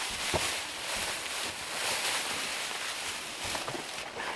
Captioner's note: grass crunching